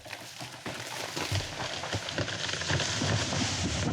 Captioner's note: tree creaking